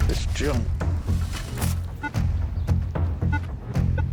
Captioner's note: beeping